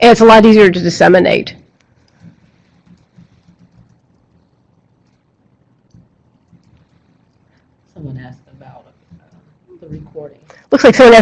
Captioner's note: silence